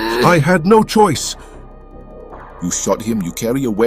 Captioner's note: Jackson gasping